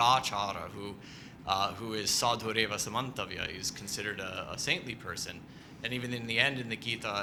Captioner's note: non-english